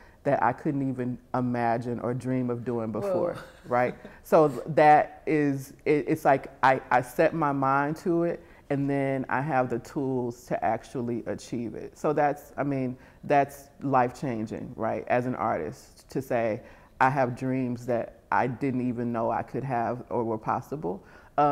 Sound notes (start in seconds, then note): 3.1 chuckles